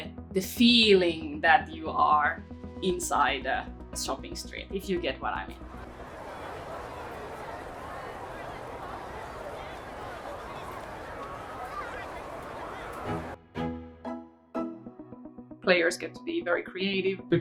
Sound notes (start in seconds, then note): 5.5 sounds of busy street